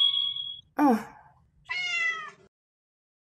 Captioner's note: wand makes a vibrant sparkly sound; meow